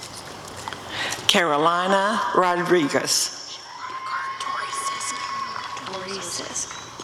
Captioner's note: applause and cheering